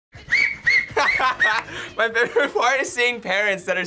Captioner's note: laughs; man whistling